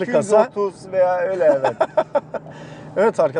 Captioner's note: laughings